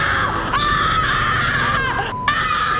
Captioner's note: ear-splitting scream